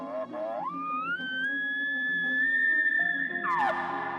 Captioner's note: elk calling